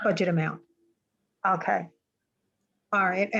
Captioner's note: woman Speaking